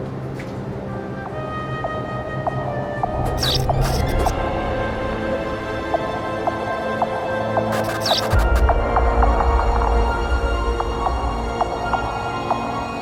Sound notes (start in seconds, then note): 0.8 vampire blipping; 3.1 lights buzzing; 7.5 lights buzzing